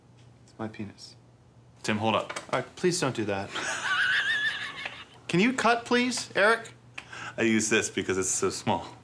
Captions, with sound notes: That's my penis. Tim hold up. Alright, please don't do that. (raspy laughter) Can you cut, please, Eric? I use this because it's so small.